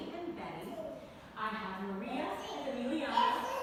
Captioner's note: babbling